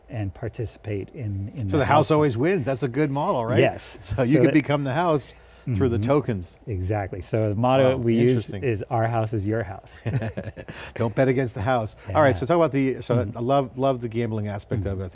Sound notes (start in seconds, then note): 10.0 laughs